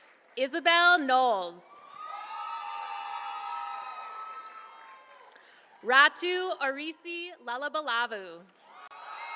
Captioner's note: applause; applause